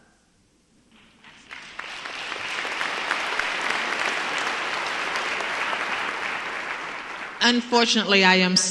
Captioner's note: applause